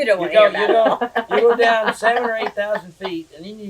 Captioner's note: laughs